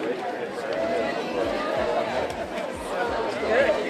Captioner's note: overlapping chatter